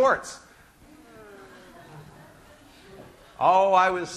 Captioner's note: class laughing